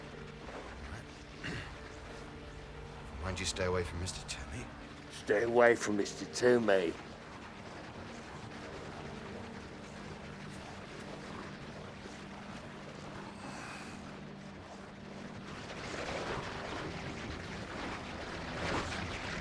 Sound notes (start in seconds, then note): 1.4 clears Throat; 4.9 mocking British Accent; 7.6 churning Sound Continues; 15.7 churning Sound Continues,</i> <i> Louder